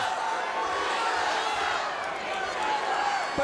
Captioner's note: crowd cheering